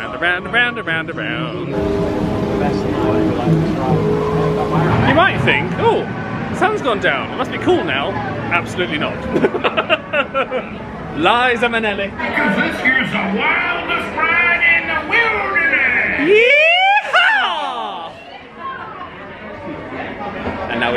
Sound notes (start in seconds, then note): 9.3 laughs